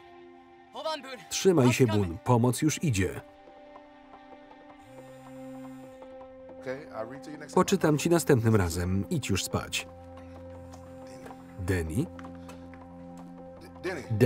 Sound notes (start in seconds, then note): 4.2 phone vibrating